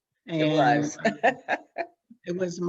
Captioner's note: laughs